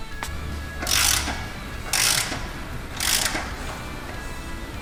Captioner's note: clicking of wrench